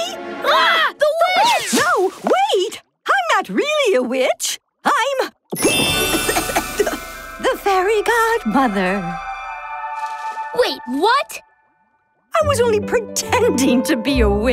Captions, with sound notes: - Ah, the Witch! - No, wait! I'm not really a witch. I'm... [coughing] The Fairy Godmother. Wait, what? I was only pretending to be a witch